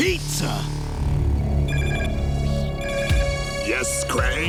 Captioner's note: beeping